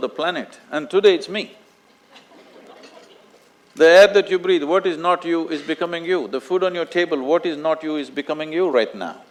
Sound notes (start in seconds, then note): 2.0 few Laugh